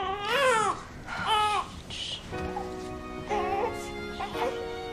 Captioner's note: Nichole starts crying in the background; Serena starts shushing her